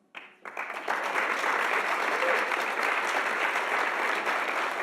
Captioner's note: audience applauding